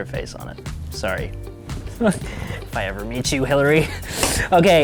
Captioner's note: laughs